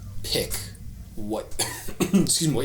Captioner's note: coughs